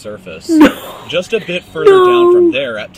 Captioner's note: laughs